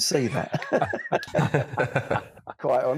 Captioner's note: both laughs